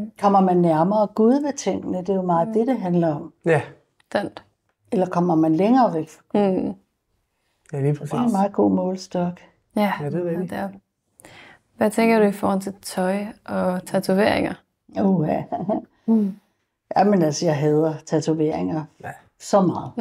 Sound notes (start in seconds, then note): none